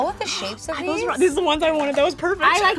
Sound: gasps

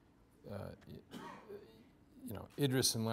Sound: stammering

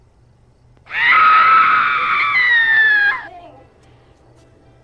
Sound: loud screaming

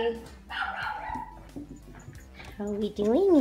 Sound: dog barking

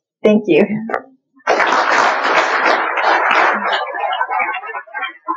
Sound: applause

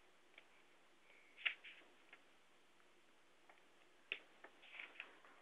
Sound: pause

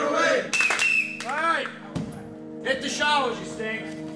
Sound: blows whistle

